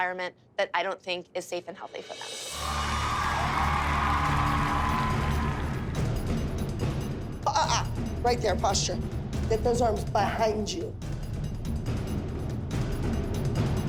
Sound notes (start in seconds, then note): 2.5 crowd cheering; 11.1 suspenseful music